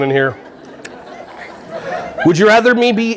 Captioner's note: audience laughing